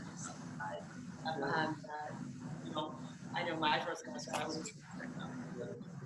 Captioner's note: murmurs